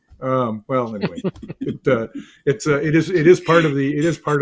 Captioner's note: all chuckle